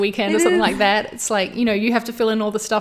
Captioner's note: all laughs